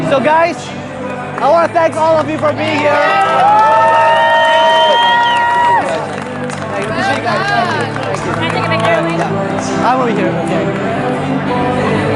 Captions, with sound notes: so guys, I wanna thank all of you for being here. (cheering)